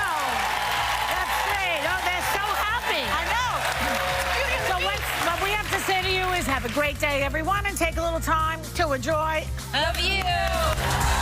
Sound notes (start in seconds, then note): 0.0 cheers and applause